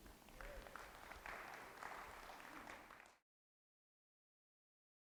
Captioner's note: applauding